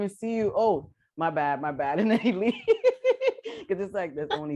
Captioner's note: laughter